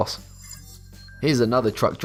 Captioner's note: futuristic ringing